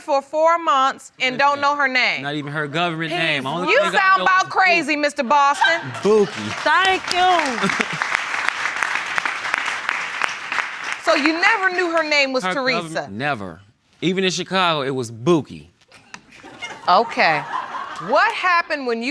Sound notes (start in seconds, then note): 5.8 applause; 13.0 laughter